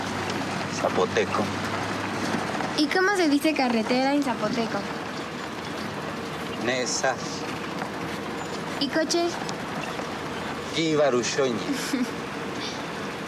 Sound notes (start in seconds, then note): 2.2 speaking in Spanish